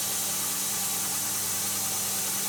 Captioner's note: none